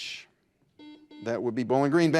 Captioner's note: buzzer buzzes